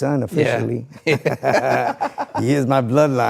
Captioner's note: person laughing